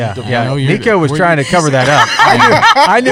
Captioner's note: laughter